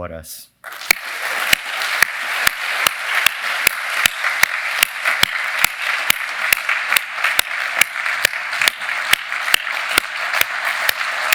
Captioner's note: applause